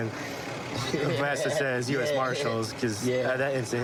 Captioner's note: laughing